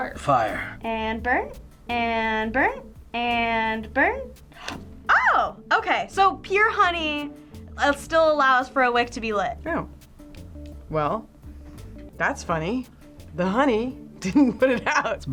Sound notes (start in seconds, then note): 4.2 gasps